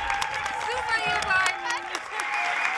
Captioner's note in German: Lachen